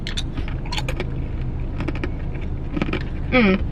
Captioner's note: chip crunches